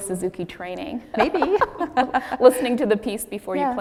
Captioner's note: laughs